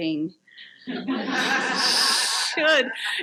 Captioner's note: audience laughs